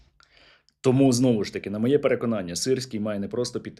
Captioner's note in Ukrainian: сопіння